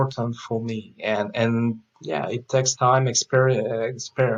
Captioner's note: stammers